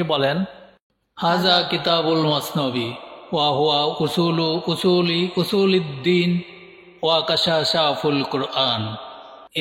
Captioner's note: persian Language